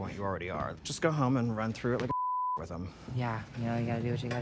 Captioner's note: beep